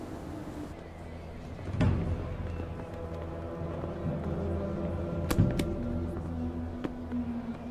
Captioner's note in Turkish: Adım Sesleri